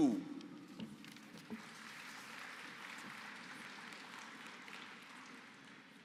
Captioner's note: applause